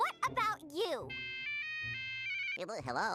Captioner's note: cell phone ringing